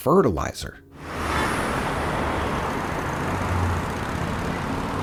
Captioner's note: car whooshing